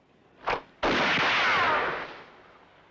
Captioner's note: gun fires